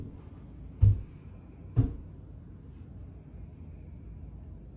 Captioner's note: knock